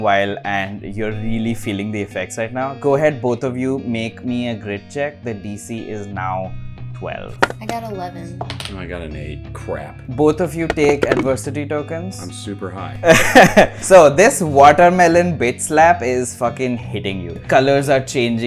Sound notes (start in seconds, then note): 13.0 laughter